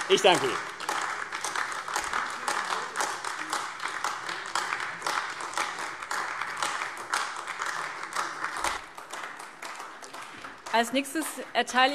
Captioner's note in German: Beifall AfD